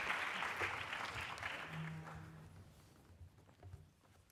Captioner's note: applause